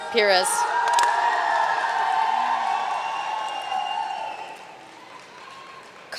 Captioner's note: audience cheering and applauding